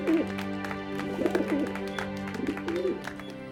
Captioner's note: dove cooing